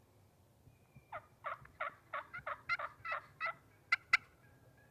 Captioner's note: turkey calls